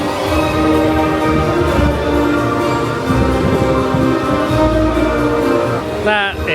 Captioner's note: crowd chattering continues; whimsical music continues